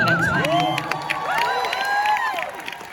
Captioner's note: applause